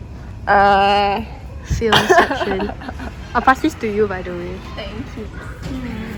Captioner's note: laughter